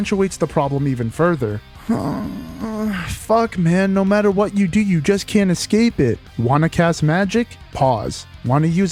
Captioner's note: sigh/groan